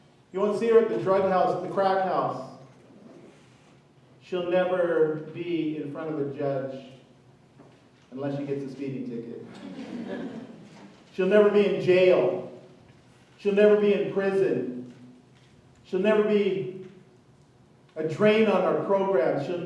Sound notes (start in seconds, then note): 9.5 chuckling